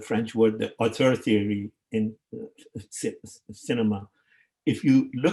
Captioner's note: speaking in foreign language